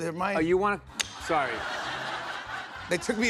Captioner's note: laughter